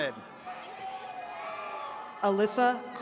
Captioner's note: attendees cheering